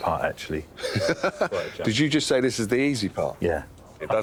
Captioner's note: laughs